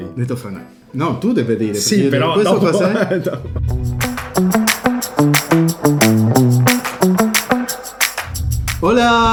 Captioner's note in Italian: risate